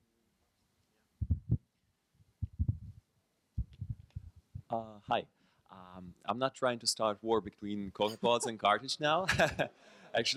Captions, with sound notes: - [Voiceover] Hi. I'm not trying to start a war between CocoaPods and Carthage now, (laughs)